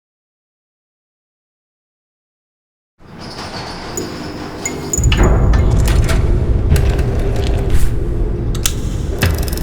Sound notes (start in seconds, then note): 3.0 garage door opening; 4.6 lights flickering; 8.5 click